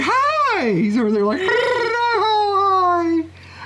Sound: tongue rolling

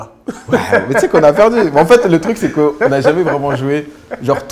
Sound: laughs

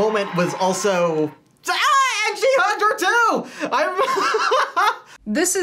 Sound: laughs

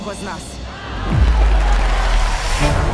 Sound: crowd cheering; intriguing music playing

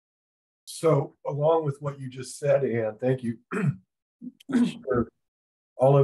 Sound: coughs

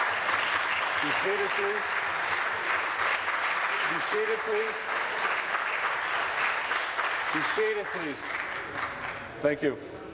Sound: applause

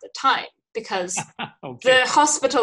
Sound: laughing

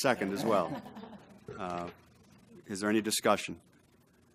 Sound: laugh

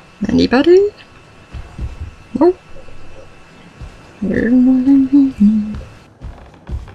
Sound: humming to self

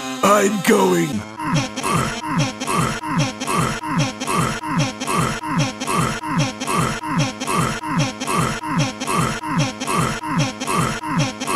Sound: more sex noises

